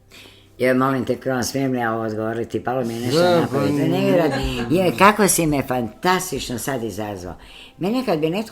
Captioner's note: laughter